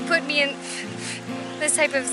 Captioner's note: blowing